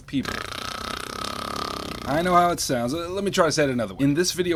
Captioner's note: snores